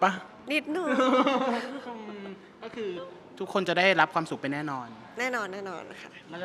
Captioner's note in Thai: เสียงหัวเราะ